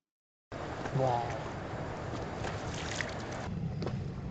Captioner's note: whales honking